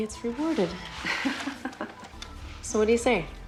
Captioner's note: chuckling